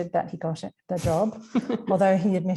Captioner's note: laughing